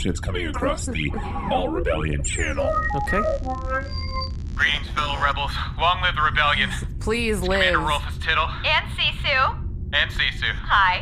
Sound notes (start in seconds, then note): 2.4 transmission-start noise